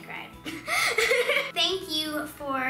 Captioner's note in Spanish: risas